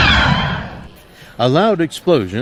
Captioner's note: dl-44 blaster shot echoes across cantina